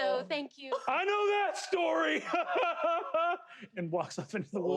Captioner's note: laughs